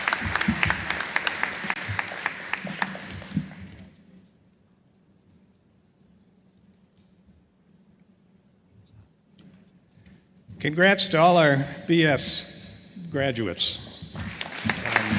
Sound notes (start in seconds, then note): 0.0 applause